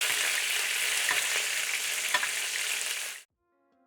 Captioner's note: sizzling sound